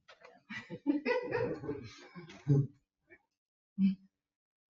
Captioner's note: people chuckle